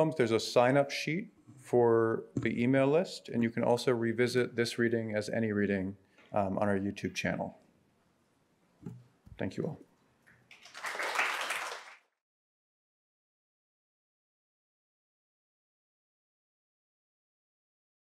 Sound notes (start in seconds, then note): 10.5 audience applauding